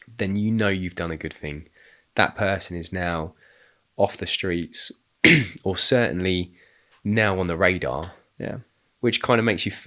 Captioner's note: coughing